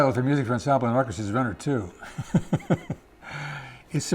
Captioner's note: laughs